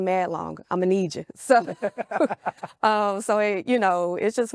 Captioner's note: both laughing